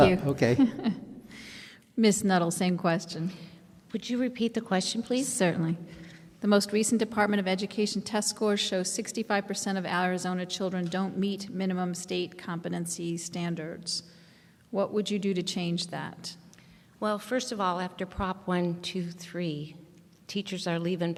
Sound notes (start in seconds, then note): 0.1 laughs